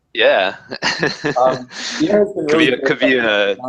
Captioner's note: laugh